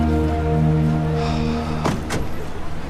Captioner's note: sighs